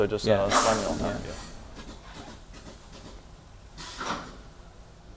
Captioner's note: machine clanking